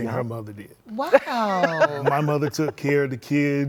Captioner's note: laughs